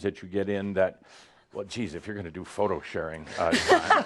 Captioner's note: laughs